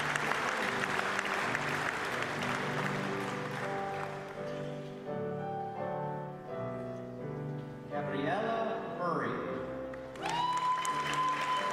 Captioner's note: applause